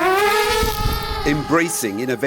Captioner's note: drone buzzing